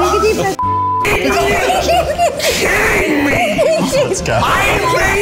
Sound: beep

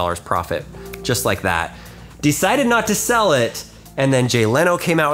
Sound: snaps

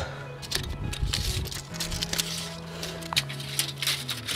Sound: tape measure rattling

